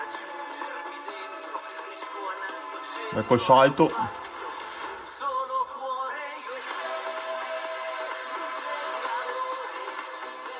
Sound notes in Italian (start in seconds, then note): 4.0 Applauso